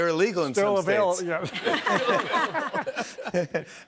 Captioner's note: laughter